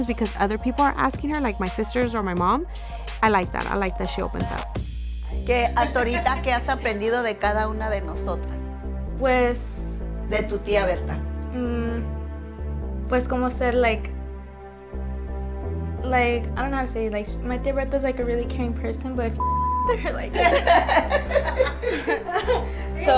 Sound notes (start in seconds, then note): 5.2 Eileen's grandma speaks in foreign language; 9.0 speaks in foreign language; 9.8 Eileen's grandma speaks in foreign language; 13.3 speaks in foreign language; 19.4 beep; 20.3 all laugh